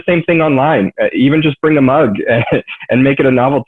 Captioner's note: laughs